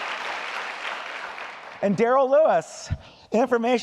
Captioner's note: applause